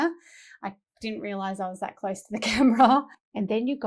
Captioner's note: laughs